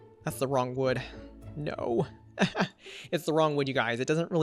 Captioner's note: chuckles